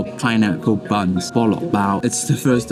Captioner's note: Cantonese